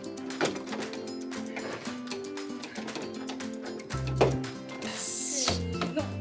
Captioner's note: laughs